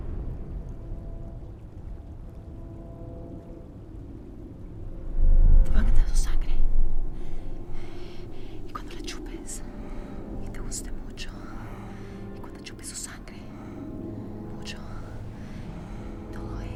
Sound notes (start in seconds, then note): 5.8 whispering in spanish